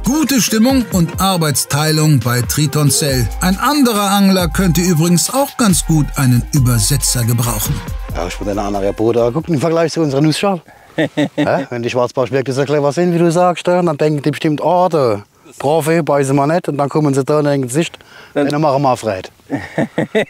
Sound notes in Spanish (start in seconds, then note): 7.6 Habla en alemán cerrado de pueblo